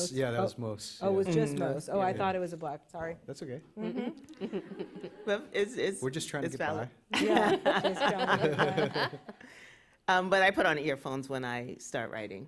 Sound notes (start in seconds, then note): 4.3 laughter; 7.1 laughter